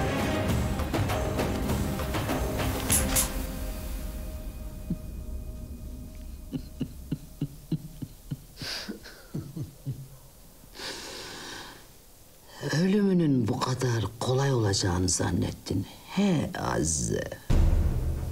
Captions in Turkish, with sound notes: (Gülüyor) Ölümünün bu kadar kolay olacağını zannettin... ...he Azize.